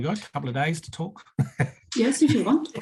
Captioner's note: laughing; both laughing